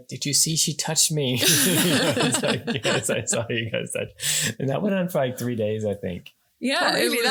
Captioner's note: laughing